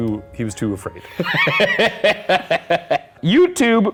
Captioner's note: laughing